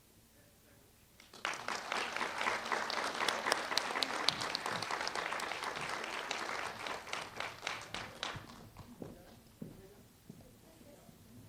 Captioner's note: applause